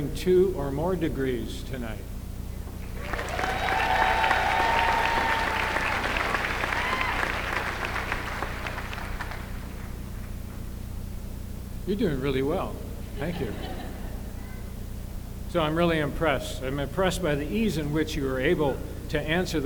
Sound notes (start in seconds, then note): 2.9 applause